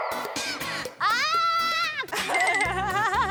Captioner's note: screaming